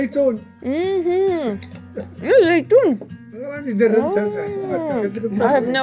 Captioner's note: man speaks foreign language